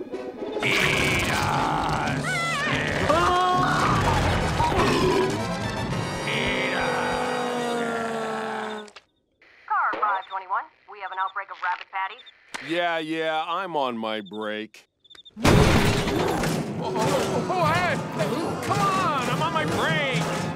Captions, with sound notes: Eat us. [screaming] [burping] Eat us. Car 521, we have an outbreak of rabid patties. Yeah, yeah. I'm on my break. O-o-o-oh hey! Come on, I'm on my break!